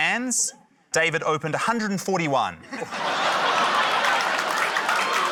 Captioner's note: laughter, applause